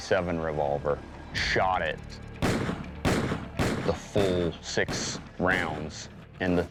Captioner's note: gunshots